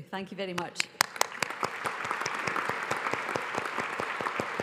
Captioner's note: audience applauds